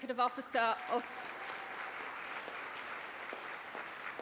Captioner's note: applause